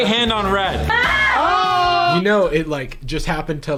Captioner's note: yelling